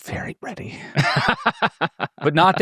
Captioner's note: participants laughing